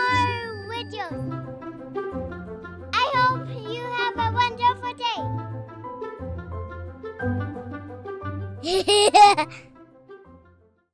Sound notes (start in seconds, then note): 8.6 laughter